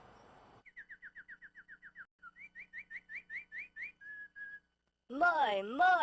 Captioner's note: birds chirping